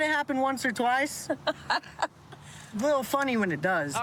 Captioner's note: laughs